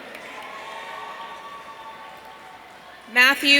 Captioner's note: audience cheering